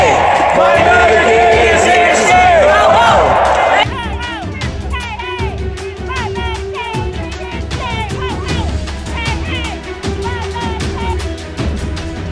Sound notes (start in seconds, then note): 9.1 repeat chant; 11.1 ominous sounding music